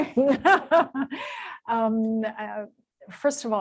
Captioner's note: laughter